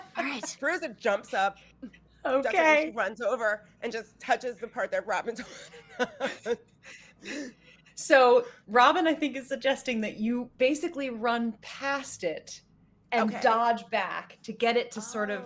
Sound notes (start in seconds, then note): 5.3 laughs